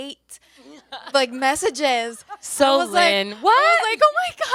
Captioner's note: panelists laughing